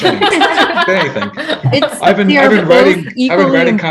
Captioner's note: all laughing